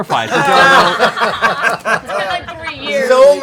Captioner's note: laughter